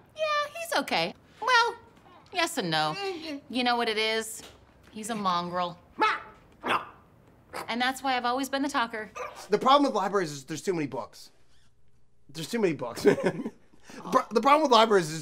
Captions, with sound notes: Yeah, he's OK. Well, yes and no. You know what it is? He's a mongrel. Mah! [GRUNTS, SNORTS] And that's why I've always been the talker. The problem with libraries is there's too many books. There's too many books. [LAUGHS] The problem with libraries is